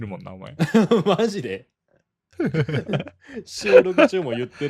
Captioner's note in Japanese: 笑い